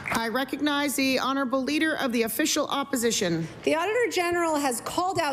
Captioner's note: applause